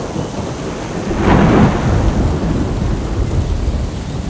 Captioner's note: thunder Rumbling